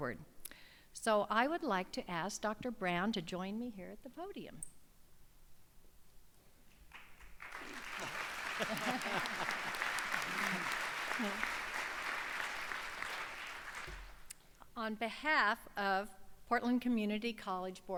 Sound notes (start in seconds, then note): 6.8 applause